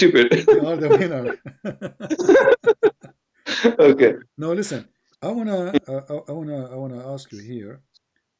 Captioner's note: Ketawa